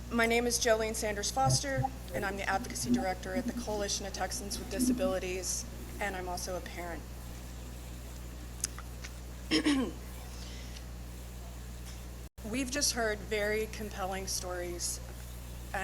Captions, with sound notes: My name is Jolene Sanders-Foster, and I'm the Advocacy Director at the Coalition of Texans with Disabilities, and I'm also a parent. (clears throat) We've just heard very compelling stories,